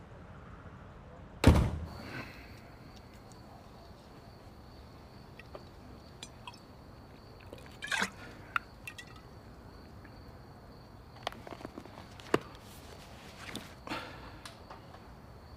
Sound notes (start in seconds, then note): 1.4 door closes